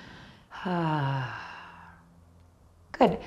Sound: sighs gently

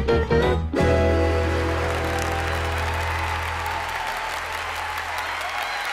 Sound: audience applauding

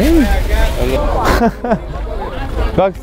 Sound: laughs

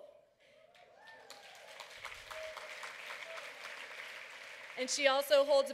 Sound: applause

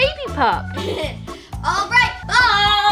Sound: laughs

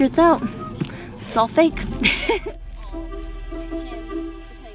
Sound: laughing; soft music

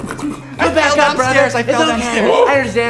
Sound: angry duck noise?; childish voice

